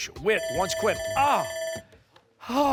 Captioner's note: timer